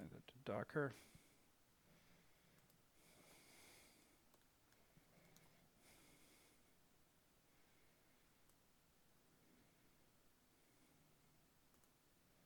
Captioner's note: silence